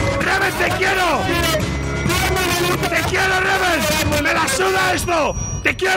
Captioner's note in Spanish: grita incomprensiblemente